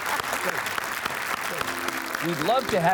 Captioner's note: audience applauding